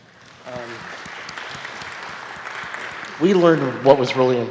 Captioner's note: students applauding